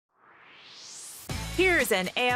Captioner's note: swoosh